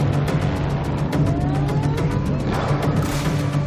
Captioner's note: intense music playing; sirens whirring; drums beating